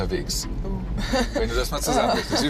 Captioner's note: laughs